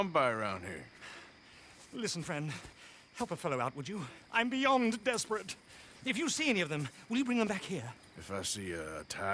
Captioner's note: sighs